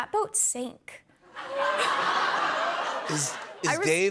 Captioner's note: laughter